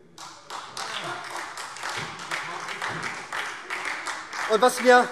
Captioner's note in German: Beifall SPD